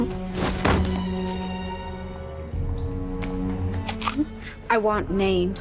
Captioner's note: Pugsley thudding on floor